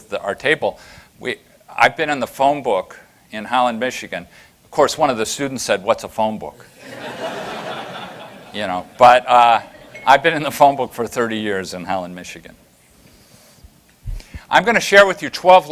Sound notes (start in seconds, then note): 6.8 laughter